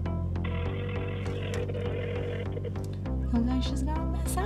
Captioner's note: phone ringing